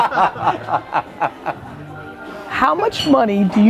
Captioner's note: laughs